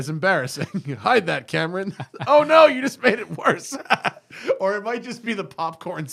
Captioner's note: laughter